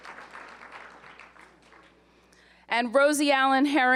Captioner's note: applause